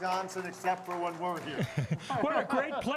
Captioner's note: laughter